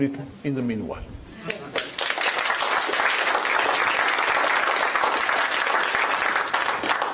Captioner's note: applause